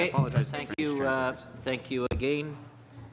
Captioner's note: speaking French